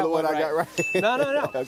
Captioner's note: laughing